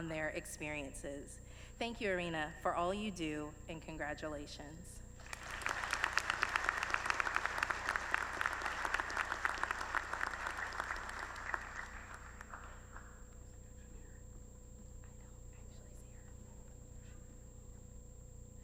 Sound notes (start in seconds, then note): 7.3 applause